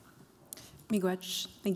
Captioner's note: non-english speech